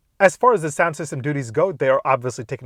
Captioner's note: none